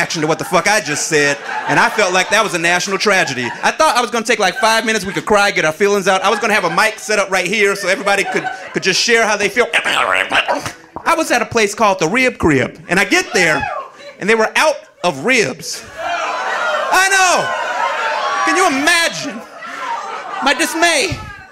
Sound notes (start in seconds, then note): 9.8 imitates rewinding; 15.8 audience jeering